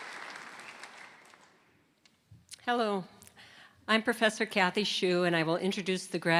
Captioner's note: applause